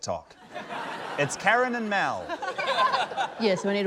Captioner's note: laughter